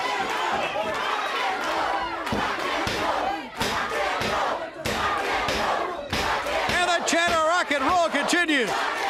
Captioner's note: crowd cheering